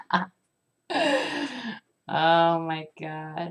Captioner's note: ghastly inhale